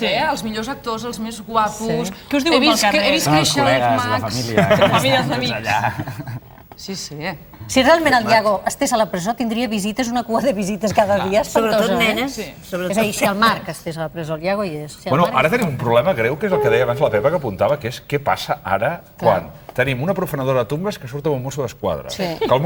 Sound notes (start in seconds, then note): 4.2 laughs